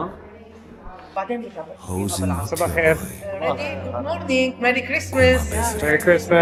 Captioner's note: aramaic Version